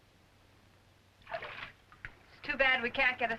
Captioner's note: water splashing